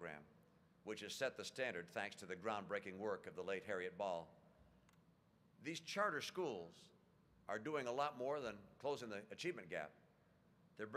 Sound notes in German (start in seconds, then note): none